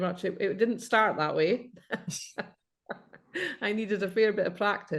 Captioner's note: laughs